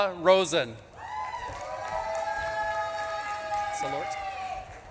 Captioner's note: audience claps and cheers